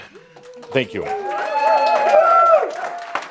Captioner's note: applause and cheering from the audience